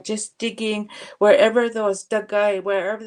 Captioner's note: speaking Indigenous language